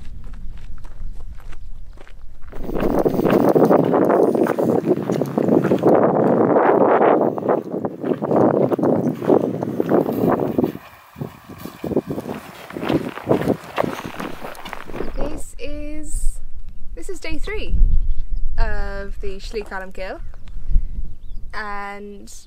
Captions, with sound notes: [ Strong wind ] This is... This is day three of the Slí Cholmcille and